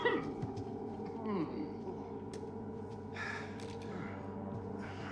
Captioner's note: Faraday coughs; Faraday groans